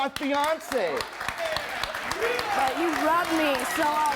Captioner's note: applause